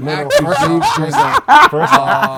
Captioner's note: laughing